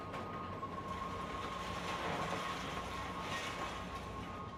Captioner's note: machine clattering